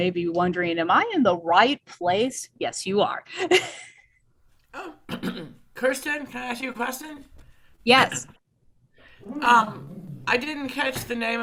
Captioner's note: laughs